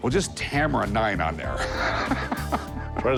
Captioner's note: laughs